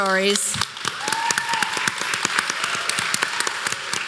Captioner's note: applause